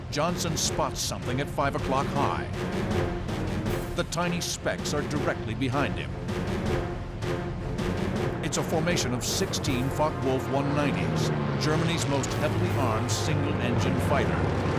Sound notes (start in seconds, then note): none